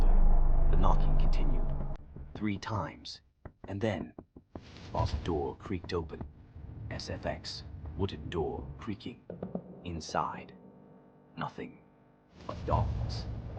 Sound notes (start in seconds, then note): 6.7 مؤثرات صوتية - صرير الباب الخشبي